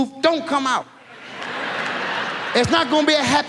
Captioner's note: audience laughs